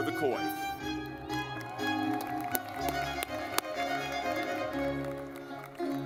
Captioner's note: lively music; audience clapping